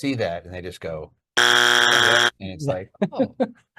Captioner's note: buzzer buzzing